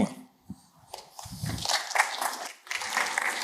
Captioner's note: applause